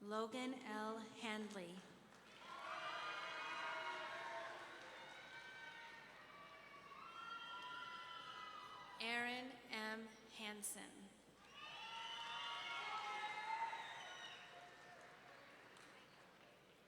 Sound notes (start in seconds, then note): 2.3 audience cheering; 11.4 audience cheering